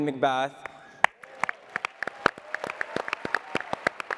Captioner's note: audience clapping